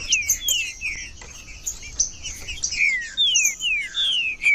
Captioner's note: trinca ferro cantando